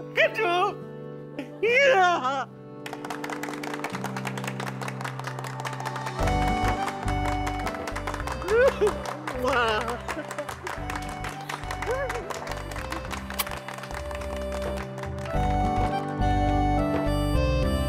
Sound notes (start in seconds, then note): 2.7 clapping; 8.4 sobbing